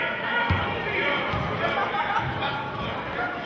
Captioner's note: yelling